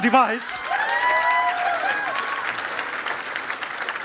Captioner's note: cheering and applause